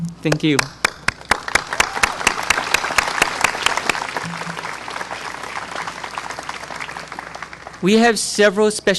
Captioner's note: clapping